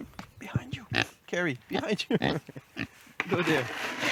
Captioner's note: pig grunting